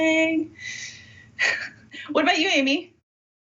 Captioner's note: giggling